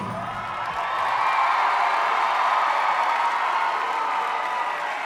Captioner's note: audience cheering